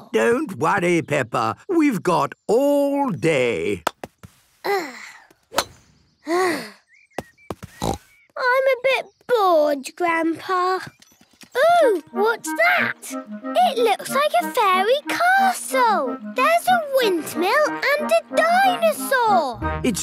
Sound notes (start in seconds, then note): 4.6 sighs; 7.8 snort